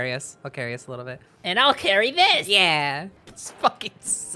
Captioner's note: Spongebob voice